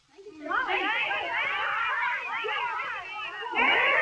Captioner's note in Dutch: geklets